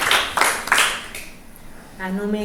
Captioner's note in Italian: Applauso